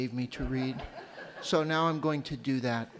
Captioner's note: light laughter